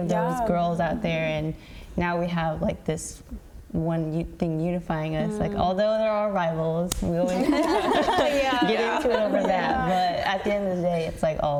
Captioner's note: laughter